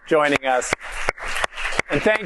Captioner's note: applause